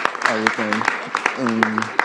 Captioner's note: applause